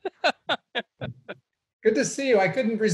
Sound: laughs

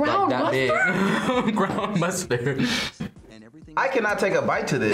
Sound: laughs

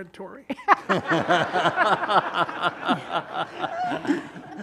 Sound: all laughing loudly

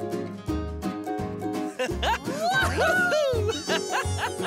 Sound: laughing and cheering

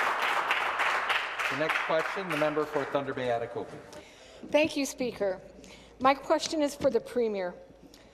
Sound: some Applause

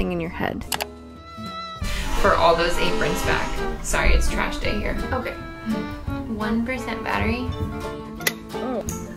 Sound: trash truck horn

